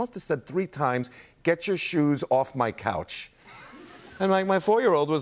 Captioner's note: laughter